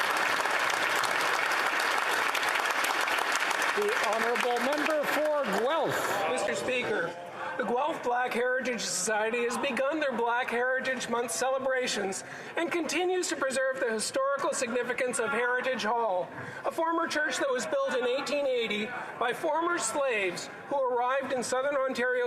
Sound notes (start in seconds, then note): 5.1 applause